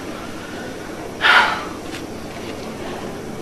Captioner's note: sighs